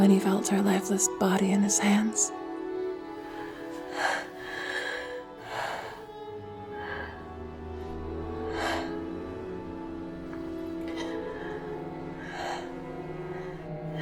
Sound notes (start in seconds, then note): 3.7 eerie music; 7.8 heavy breathing